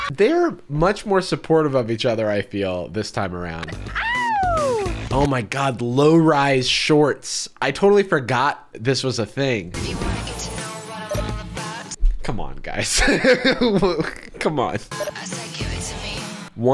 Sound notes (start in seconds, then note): 3.8 cheering